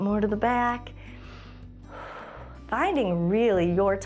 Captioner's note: exhales